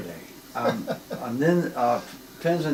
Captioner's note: laughs